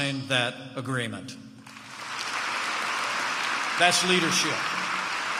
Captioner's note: applause